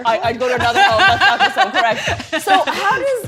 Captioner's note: laughs